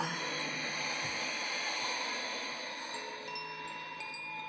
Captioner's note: exhaling